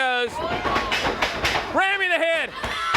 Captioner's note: crowd cheering